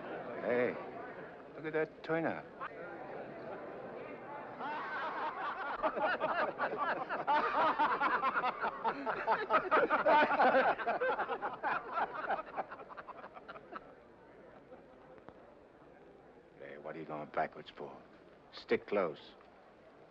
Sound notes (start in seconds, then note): 4.6 men laughing